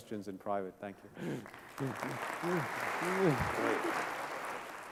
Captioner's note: applause